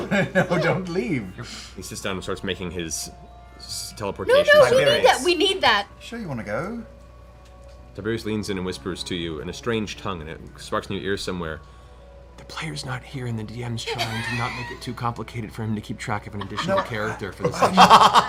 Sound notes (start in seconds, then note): 12.0 whispers